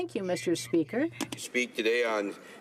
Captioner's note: speaking French